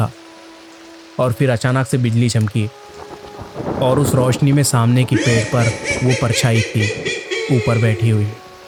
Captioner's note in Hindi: हंसी